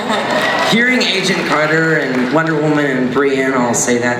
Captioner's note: audience cheering; voiceover